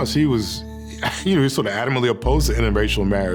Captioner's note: chuckles